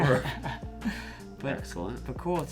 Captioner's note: laughs